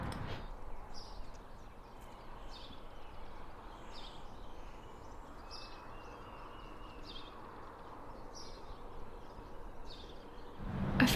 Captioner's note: birds chirping